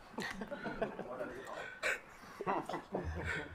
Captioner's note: attendees laugh